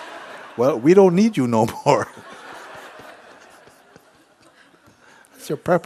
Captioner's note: laughter; laughter